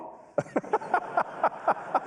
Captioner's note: laughter